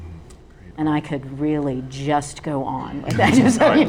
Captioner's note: laughs